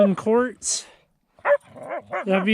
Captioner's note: Laika barking